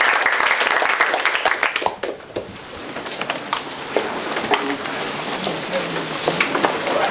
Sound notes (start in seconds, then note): 0.0 applause; 1.7 background chatter